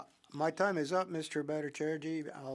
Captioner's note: speaking French